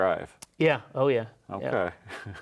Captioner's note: laughs